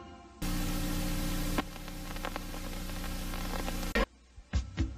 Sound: TV static

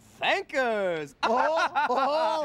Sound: both laugh

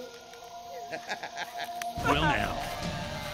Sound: chuckling

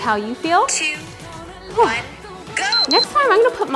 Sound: beeps

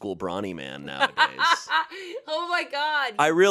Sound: laughs

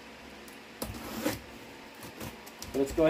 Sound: box slicing open

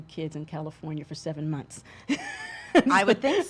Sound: laughs

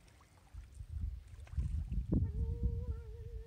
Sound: splash splash

